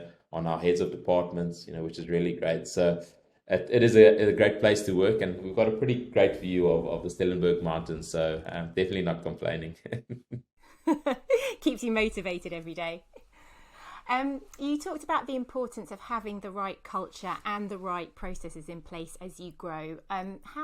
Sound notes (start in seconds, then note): 10.8 laughs